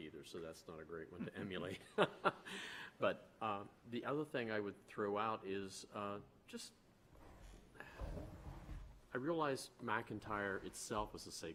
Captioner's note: laughter